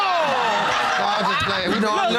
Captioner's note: all exclaiming